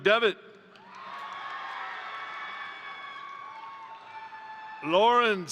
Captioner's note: crowd cheering; crowd applauding